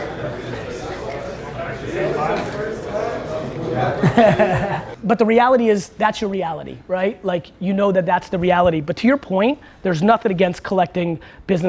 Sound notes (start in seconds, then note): 3.9 laughter